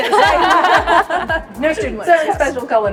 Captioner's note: all laughing